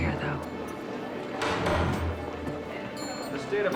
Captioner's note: gavel bangs